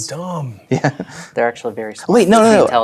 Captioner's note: chuckles